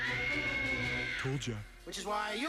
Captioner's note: mira screams